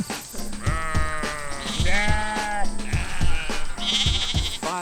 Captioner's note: sheep sounds in the background